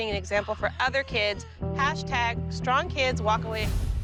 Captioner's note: gasps